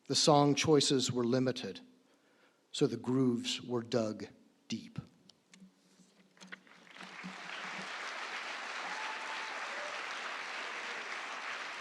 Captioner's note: applause